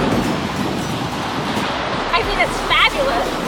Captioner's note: waves crashing